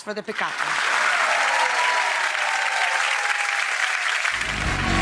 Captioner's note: audience cheering